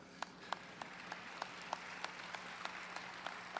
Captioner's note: applause